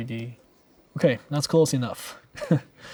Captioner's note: chuckles